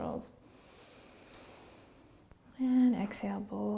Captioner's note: inhaling